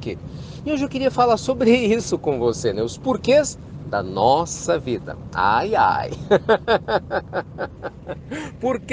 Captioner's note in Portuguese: Risos